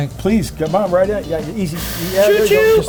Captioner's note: steam hissing